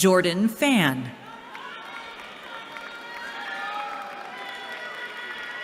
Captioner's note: cheering